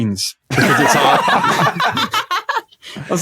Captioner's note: group laughs uproariously